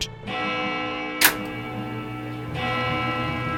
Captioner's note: bell chiming